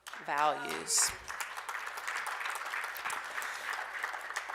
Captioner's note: applause